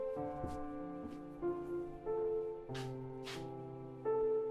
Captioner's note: footsteps approaching; poignant music continuing to play